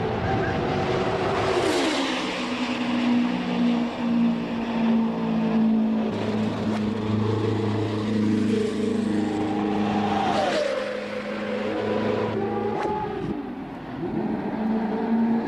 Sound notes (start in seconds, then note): 2.4 engine noises; 7.4 track noises